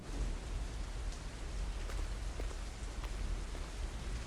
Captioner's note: rain pattering